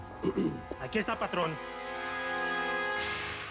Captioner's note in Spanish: carraspea